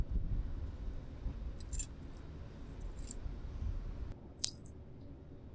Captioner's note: metal clanking